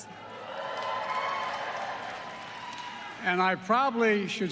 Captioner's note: applause